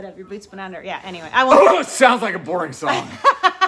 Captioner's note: coughs; laughing